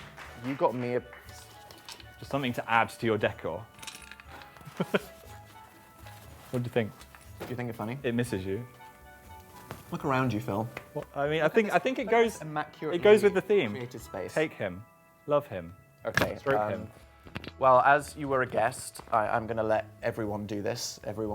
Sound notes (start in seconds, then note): 0.0 audience applaud; 4.6 laughs